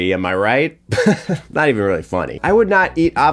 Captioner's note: chuckling